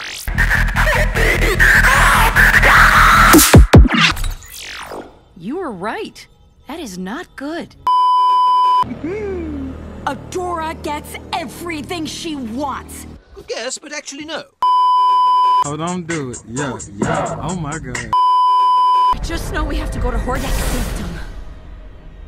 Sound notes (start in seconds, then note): 0.0 electronic noise; 7.8 beeeeeep; 8.8 the tail end of a breakdown laugh; 18.2 beeeeeep